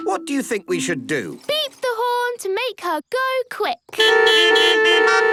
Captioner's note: beeping